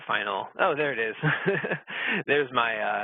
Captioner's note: laughing